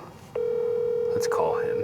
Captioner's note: phone ringing